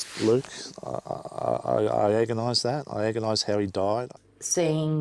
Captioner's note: stammering